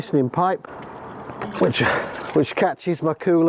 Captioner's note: running water